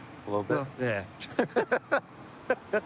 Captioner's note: laughter